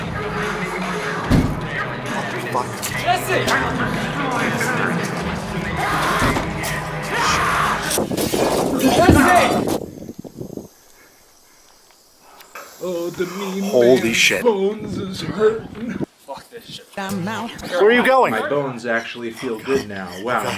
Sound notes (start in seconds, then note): 5.7 bump; 5.7 yelling